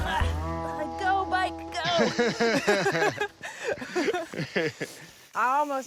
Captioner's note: laughter